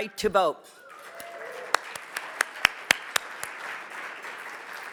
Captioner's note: audience cheers